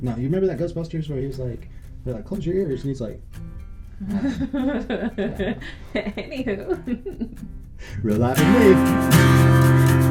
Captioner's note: laughing